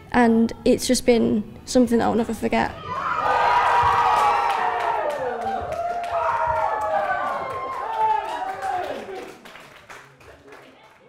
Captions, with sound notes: And it's just been something I will never forget. (cheering)